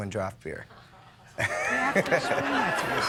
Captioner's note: audience laughs